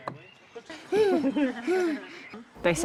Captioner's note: laughter